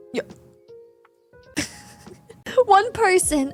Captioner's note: laughs